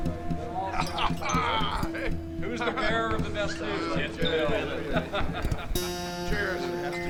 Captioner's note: people chatter indistinctly; glasses clink